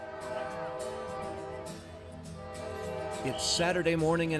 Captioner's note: train horn blows